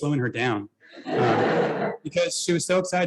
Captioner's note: laughter